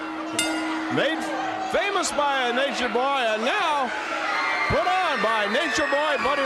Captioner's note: bell ringing